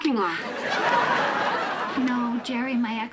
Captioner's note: audience laughing